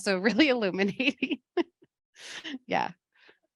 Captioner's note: laughs